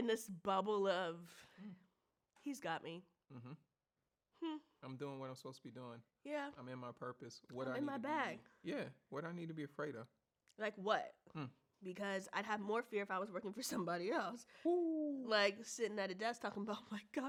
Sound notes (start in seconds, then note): 14.8 gasps